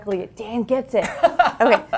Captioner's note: laugh